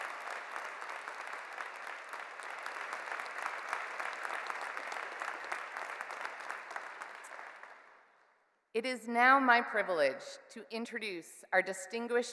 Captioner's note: cheers and Applause